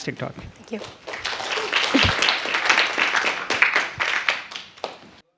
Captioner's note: applause